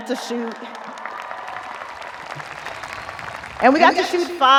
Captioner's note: audience applauding; audience cheering